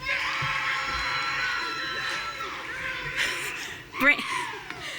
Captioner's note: audience cheering